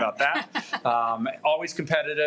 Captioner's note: laughs